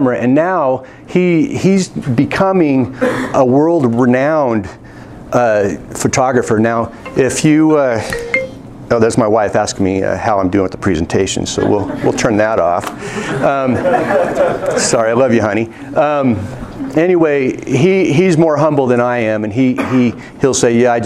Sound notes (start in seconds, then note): 13.1 laughing